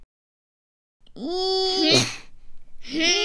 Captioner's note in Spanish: Pujido